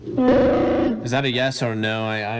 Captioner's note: Chewbacca growls